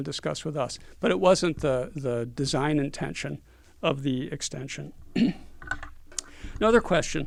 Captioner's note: cough